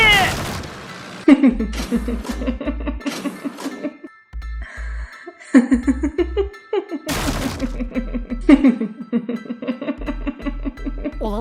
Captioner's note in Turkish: Gülme sesi